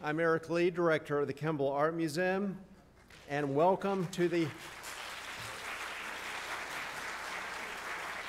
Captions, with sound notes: I'm Eric Lee, Director of the Kimbell Art Museum, and welcome to the-- (audience applauding)